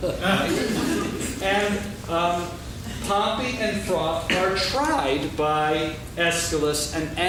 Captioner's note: laughing